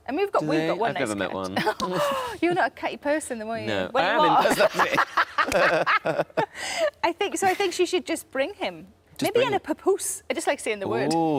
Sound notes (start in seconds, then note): 2.0 gasps; 4.3 Sarah and Tom laughing